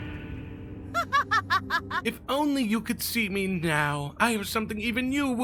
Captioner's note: Gabriella laughs